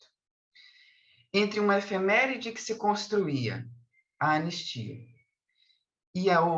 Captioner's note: continues speaking in Portuguese